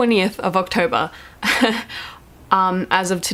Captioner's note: laughs